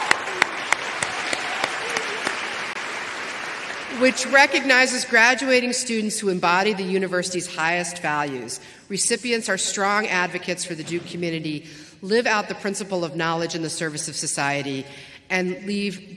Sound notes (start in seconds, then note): 2.7 applause